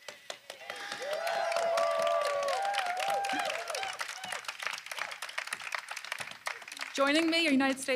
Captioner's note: applause